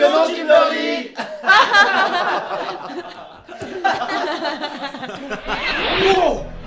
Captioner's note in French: rires